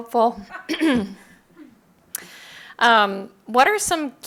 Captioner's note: laughing